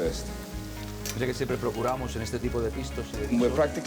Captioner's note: speaking Spanish